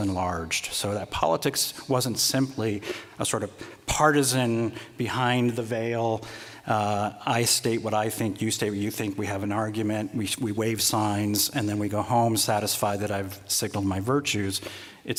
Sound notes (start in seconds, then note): none